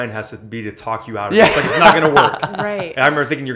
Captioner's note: laughs